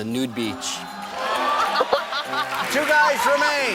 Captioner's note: laughing and clapping